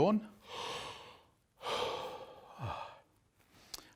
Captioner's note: takes a deep breath